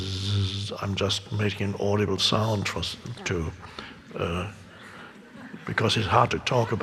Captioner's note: laughs